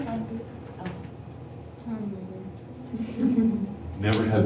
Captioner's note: laughter